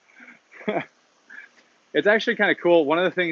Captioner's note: laughs